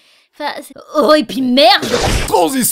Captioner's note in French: Slash!